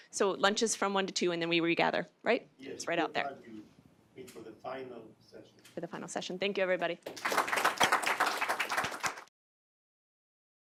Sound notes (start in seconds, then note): 7.1 loud applause